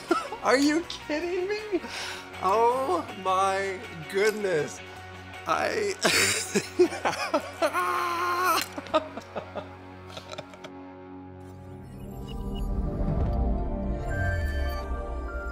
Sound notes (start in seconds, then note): 0.0 laughing; 5.9 laughing; 7.6 screaming; 8.9 laughing; 11.8 gentle music